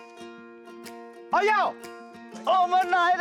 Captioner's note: foreign language